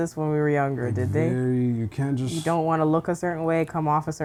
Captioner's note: none